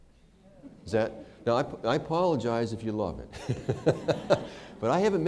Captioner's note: laughter